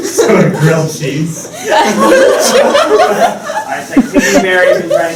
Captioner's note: laughter